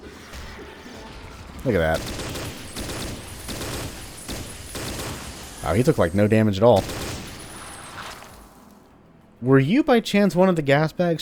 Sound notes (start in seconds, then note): 1.9 M16 bursting